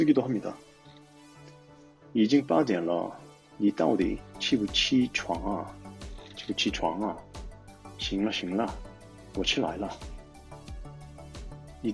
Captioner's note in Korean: 중국어 읽는 중